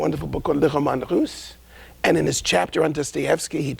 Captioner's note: speakgn in a foregin language